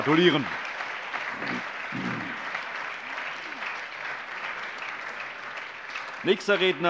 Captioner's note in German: Allgemeiner Beifall